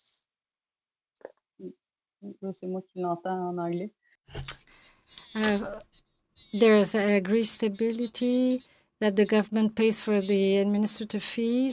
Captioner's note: speaking French